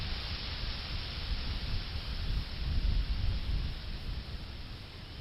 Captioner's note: thunder rumbling